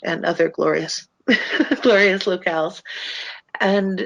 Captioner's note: laughs